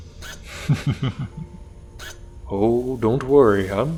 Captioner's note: Deck chuckles